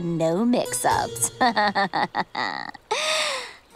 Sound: laughing

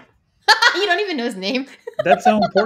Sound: laughs

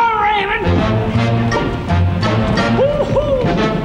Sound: audience laughing

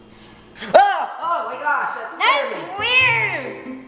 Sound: screams

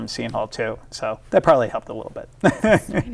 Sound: laughs

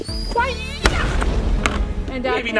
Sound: bomb exploding

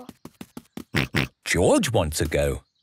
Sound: snorts

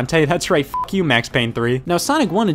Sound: beep

